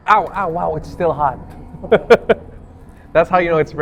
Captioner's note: laughs